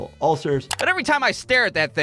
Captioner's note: video popping